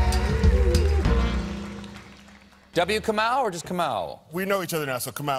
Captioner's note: cheers and applause